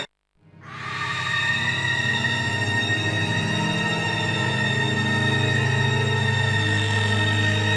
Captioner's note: horrible, high-pitched scream